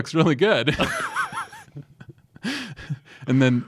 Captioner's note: both laugh